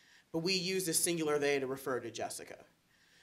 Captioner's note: none